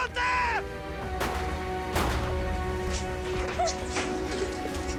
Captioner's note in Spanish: Disparos